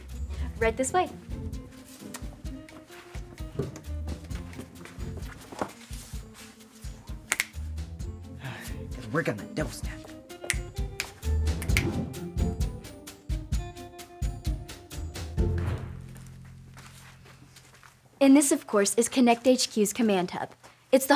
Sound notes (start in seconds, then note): 5.0 feet shuffle; 5.0 fingers snap; 11.4 mellow music